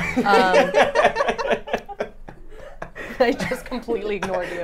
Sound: laughs

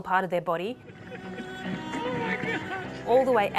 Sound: laughs

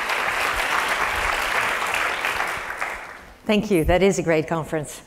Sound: applause

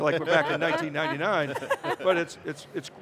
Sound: all laughing

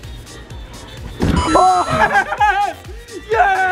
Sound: successful ding; laughing and yelling

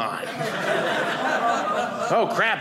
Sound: audience laughing

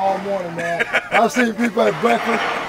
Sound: laughing

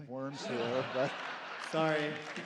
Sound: laughter and applause

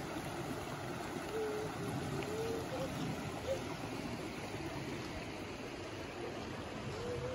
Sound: mountain stream flowing/looking upstream

